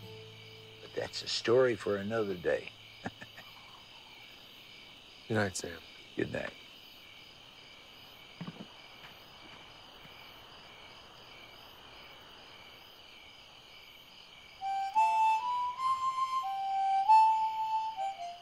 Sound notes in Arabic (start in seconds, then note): 3.0 يضحك; 14.6 موسيقى الهارمونيكا الهادئة